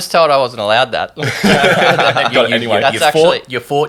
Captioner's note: everyone laughing